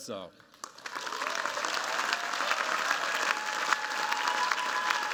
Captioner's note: cheers, applause